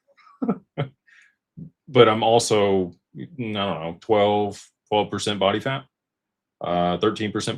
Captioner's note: laughter